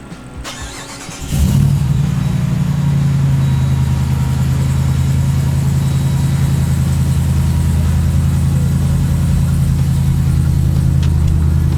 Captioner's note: lovely loud engine noises